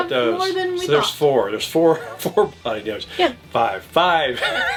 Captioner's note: chuckles; laughs